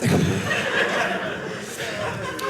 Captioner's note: audience laughing